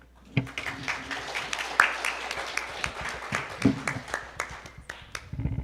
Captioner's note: audience applauding